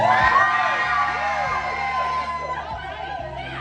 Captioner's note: audience cheering